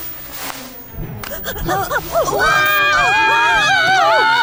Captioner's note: screaming